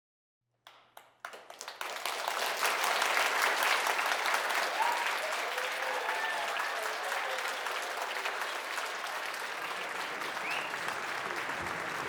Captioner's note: applause, cheers